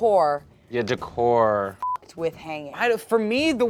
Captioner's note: beep